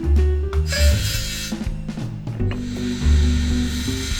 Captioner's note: saw whirs